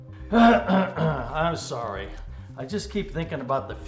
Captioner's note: clears throat